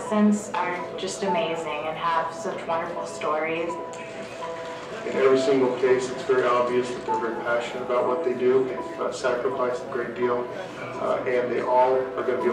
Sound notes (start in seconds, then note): 4.2 man's voice